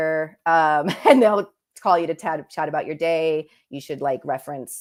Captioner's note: laughter